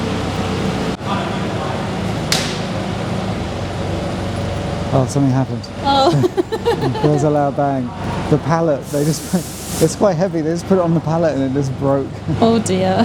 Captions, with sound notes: Oh, something happened. Oh. (laughs) There's a loud bang. The pallet, they just, it's quite heavy. They just put it on the pallet and it just broke. Oh dear.